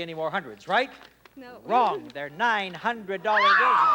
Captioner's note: screams; audience groans